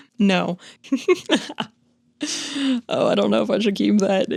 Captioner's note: chuckles; narrator laughing